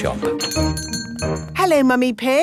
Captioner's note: doorbell chiming